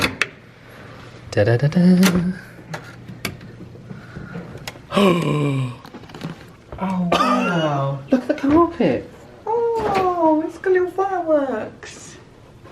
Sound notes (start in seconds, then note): 0.1 latch clicks; 4.8 gasps